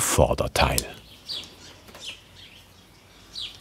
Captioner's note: birds chirping